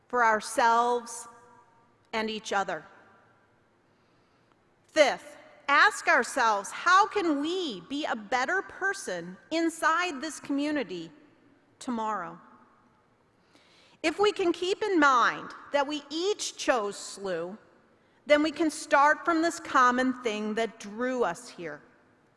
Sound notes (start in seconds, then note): none